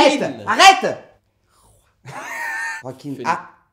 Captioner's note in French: rires